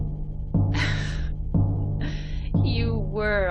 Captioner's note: laughs